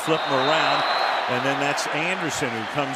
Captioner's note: whistle